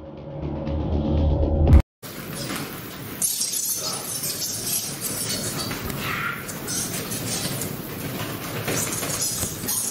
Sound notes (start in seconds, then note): 3.1 bats squeaking